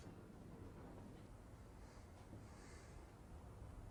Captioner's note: none